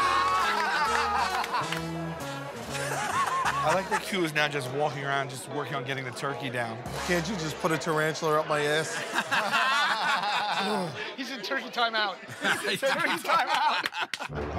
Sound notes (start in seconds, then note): 0.1 laughter; 8.9 laughter; 10.5 sighs